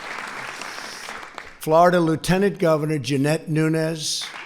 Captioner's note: applause